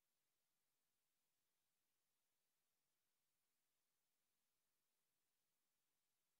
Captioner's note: none